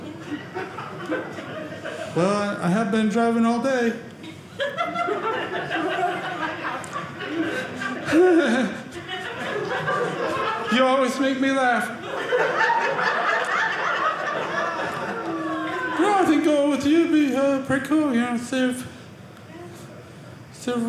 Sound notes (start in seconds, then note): 11.9 audience laughing